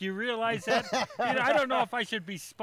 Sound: laughing

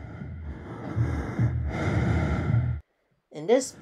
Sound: heavy breathing, heartbeat continues

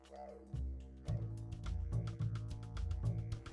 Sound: laughing

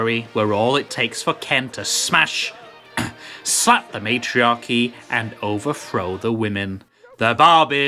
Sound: cough

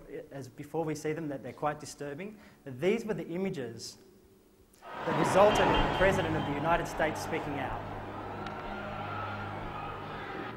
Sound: sounds of riot

